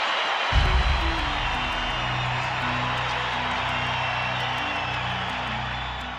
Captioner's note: crowd cheers